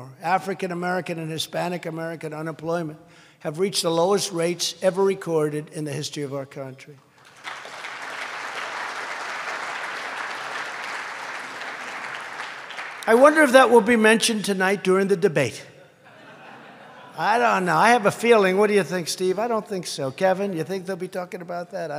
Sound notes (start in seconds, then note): 7.1 applause; 15.8 laughter